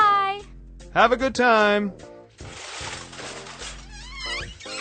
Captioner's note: sifting through drawer; door creaks and shuts